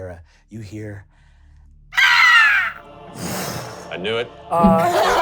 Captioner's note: squeals